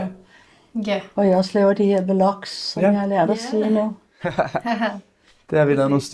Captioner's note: laughs